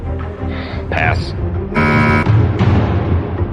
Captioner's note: buzzer sounds